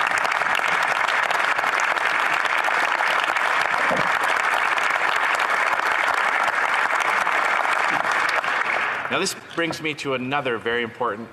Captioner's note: some Applause